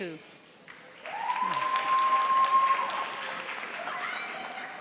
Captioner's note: audience applauding